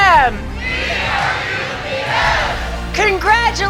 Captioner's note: crowd Chanting